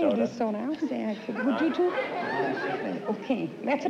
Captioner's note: chatter